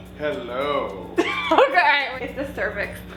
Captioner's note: laughs